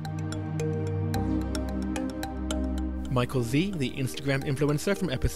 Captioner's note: voiceover